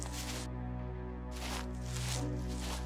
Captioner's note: none